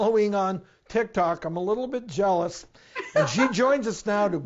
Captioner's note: laughing